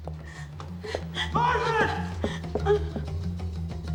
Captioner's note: panting